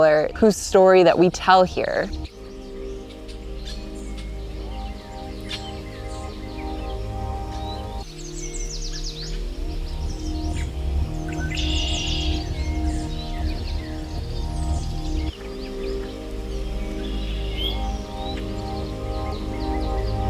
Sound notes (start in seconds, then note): 3.7 birds chirping; 3.7 soothing music; 15.1 birds chirping; 15.1 soothing music continues